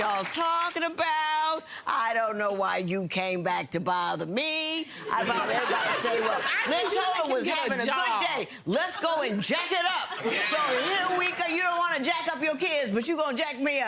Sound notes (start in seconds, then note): 5.1 audience laughing